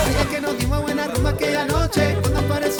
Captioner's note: Faith ríe; Continúa música latina